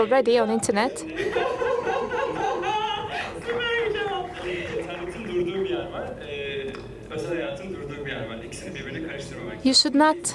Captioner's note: laughter